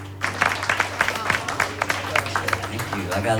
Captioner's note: applause